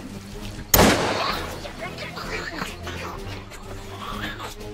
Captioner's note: gun firing